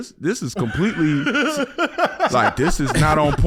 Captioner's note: laughs